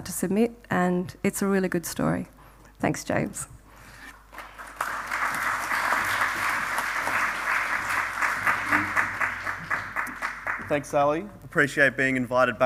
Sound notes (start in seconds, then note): 4.2 applause